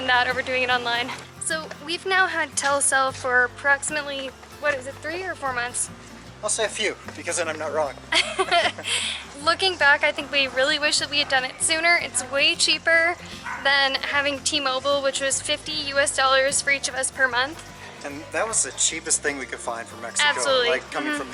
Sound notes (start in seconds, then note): 8.1 laughter